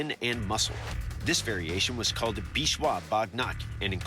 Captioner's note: non-english speech